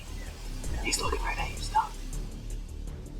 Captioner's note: whispering